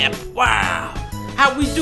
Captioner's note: wooow!